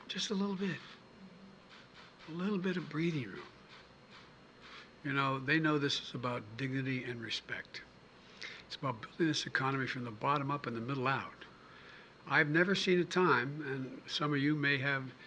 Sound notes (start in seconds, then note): none